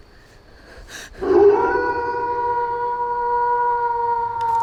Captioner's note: werewolf howling